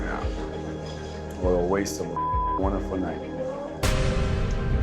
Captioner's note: beep